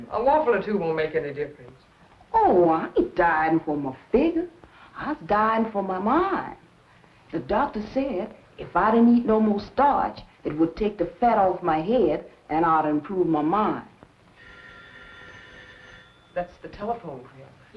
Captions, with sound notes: -A waffle or two won't make any difference. -Oh, I ain't dieting for my figure. I's dieting for my mind. The doctor said, if I didn't eat not more starch, it would take the fat off my head, and I'll improve my mind. [PHONE RINGS] -That's the telephone, Creola.